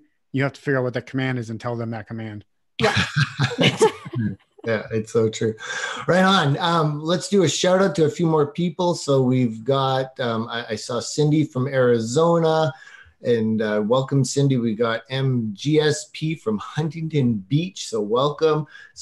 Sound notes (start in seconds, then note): 2.8 laughing